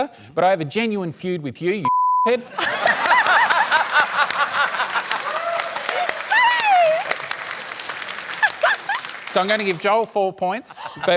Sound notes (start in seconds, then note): 2.5 laughter, applause; 7.3 applause